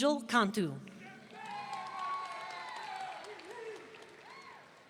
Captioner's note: audience cheering